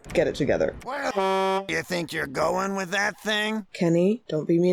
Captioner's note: honk